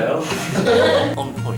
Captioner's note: laughter